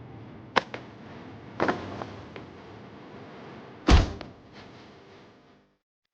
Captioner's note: weapons thudding and clanking